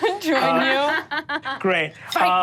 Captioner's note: laughs